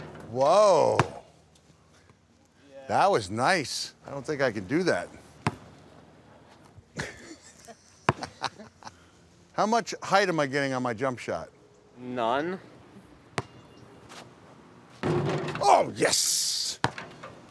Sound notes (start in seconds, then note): 6.9 laughs